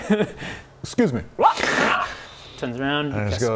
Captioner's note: interrupted drake noises